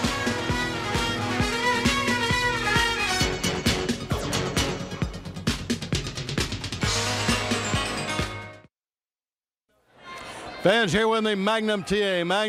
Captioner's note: crowd cheering